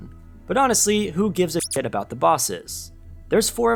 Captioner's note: beep